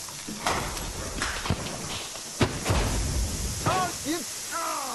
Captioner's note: crackling and fizzing; banging